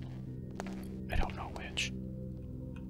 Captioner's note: whispers